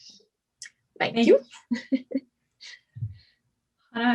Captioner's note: laughs